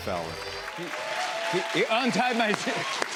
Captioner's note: cheers and applause